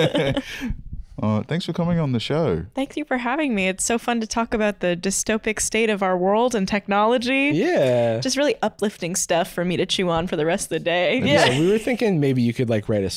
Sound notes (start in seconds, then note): 7.6 cheerfully